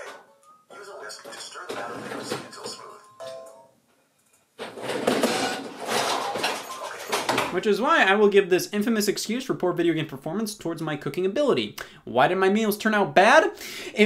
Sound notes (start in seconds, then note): 2.4 cooking ware banging; 4.6 cooking ware crashing